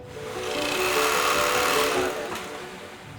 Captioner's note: sewing machine whirring